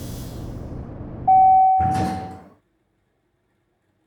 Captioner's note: ding! Doors open